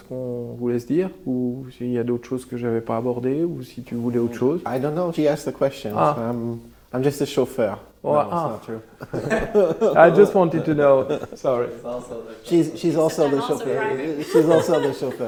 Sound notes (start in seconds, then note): 8.8 laughing